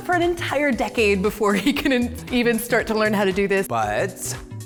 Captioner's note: laughs